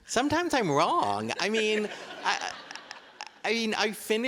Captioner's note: audience laughing